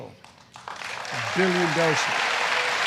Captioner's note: applause